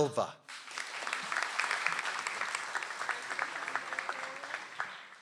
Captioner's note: audience applauds